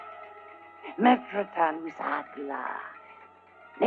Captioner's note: speaking unknown language